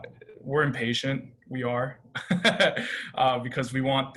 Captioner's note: laughter